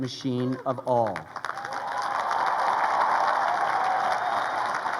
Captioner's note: crowd cheering